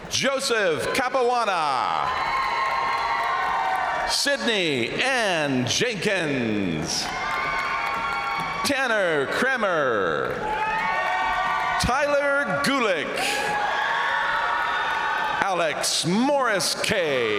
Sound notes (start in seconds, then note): 1.7 crowd cheering; 1.8 crowd applauding; 6.4 crowd cheering; 6.4 crowd applauding; 10.1 crowd cheering; 12.9 crowd applauding; 13.1 crowd cheering